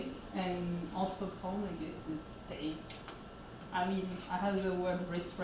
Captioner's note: speaks French